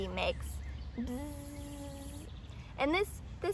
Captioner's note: buzzing sounds